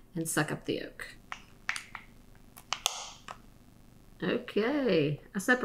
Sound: plastic bottle crinkling

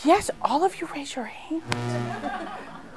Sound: laughter

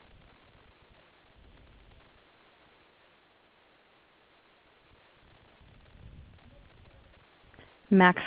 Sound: silence

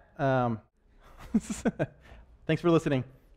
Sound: laughs

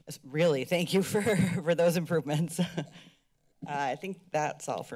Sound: laughter

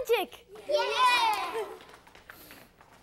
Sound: kids cheering

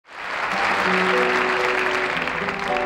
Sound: audience clapping

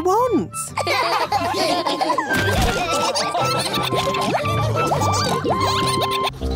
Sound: all laughing

